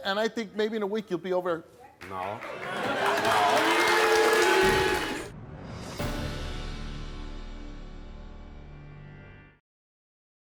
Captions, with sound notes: and I think maybe in a week you'll be over there. - No, no. (cheering) (dramatic music)